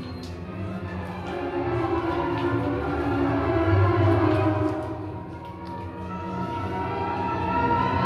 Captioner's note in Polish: Aplauz